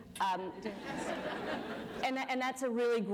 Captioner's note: laughter